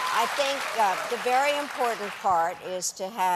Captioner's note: cheers and applause